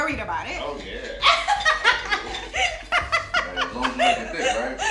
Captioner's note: laughs